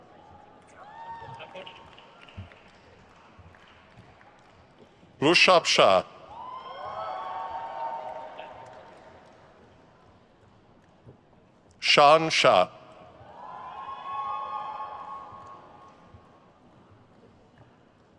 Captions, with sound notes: Rushabh Shah. (crowd cheers) Shaan Shah. (crowd cheers)